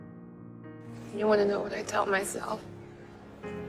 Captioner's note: voiceover